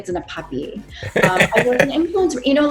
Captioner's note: laughing